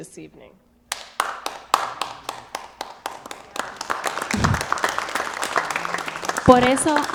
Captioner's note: applause